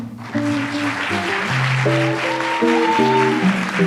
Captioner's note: audience applauds